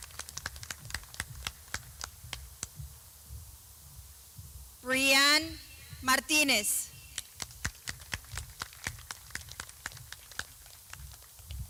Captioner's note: clapping; clapping